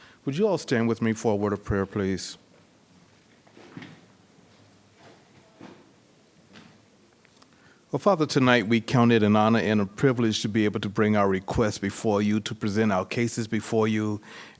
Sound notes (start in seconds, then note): 4.7 chairs creaking